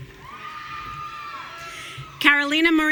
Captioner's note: audience cheering